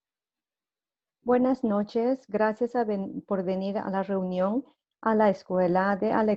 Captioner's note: in foreign language